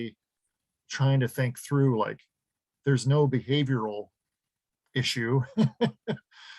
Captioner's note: laughs